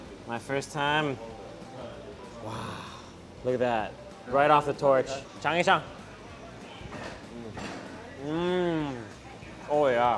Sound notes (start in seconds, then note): 5.1 speaks in foreign language